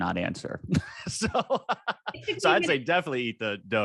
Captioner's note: both laughing